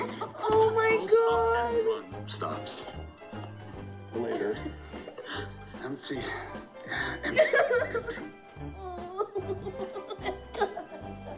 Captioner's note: sobs violently